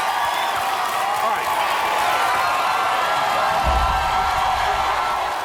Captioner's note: crowd cheering